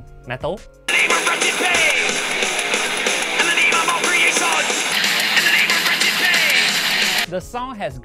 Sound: noisenoisenoisenoisenoise

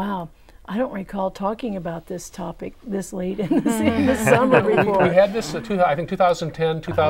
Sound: laughing

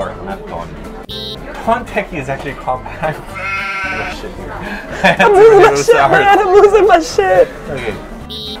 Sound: sheep sound

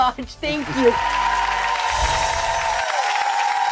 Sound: applause

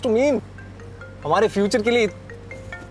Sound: cell phone ringing

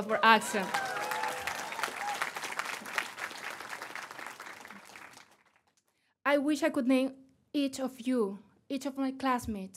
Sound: applause

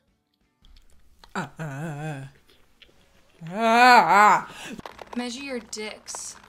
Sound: slurps drink; gags

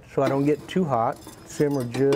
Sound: tongs clanking

